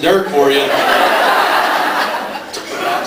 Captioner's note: laughs